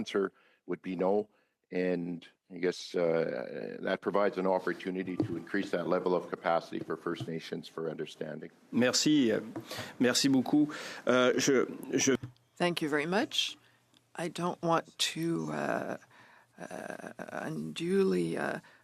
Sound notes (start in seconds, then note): 13.7 speaking French